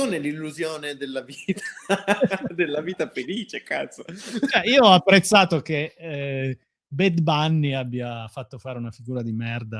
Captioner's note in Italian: risate